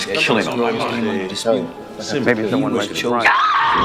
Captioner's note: woman screams